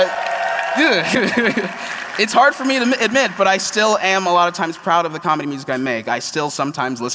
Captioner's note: applause